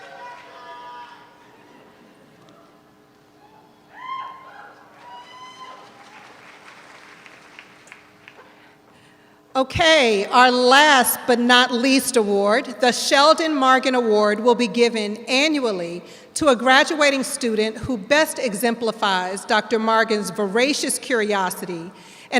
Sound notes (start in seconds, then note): 3.4 audience whooping; 6.7 audience applauds